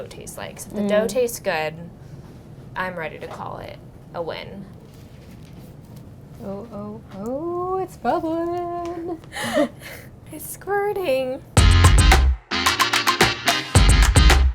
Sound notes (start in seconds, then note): 8.6 laughing; 11.6 upbeat music